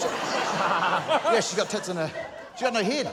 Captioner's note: laughter